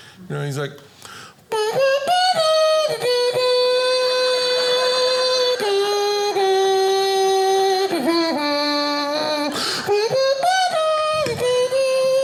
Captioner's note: humming song